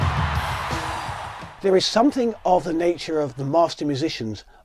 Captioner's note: people cheering